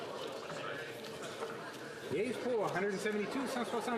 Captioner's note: speaking French